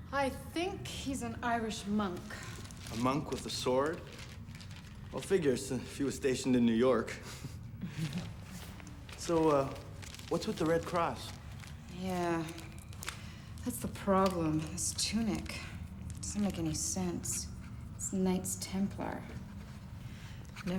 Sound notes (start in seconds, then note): 7.3 Karen chuckles; 7.3 chuckles